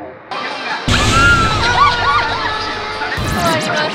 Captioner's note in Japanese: 悲鳴